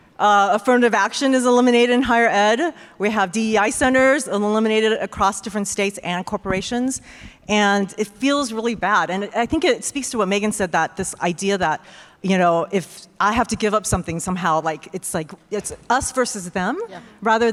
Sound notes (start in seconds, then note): none